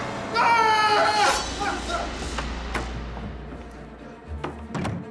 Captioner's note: screams